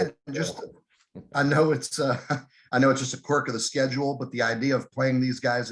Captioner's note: laughs